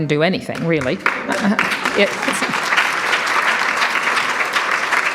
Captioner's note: audience applauds